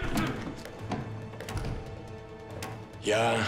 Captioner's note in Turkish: Kapı vurma sesi